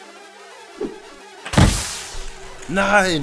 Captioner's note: lightning